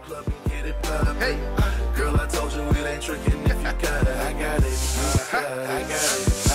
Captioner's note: chair scooting